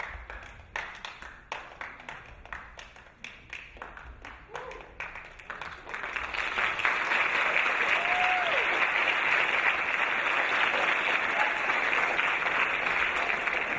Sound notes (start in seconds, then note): 6.4 audience clapping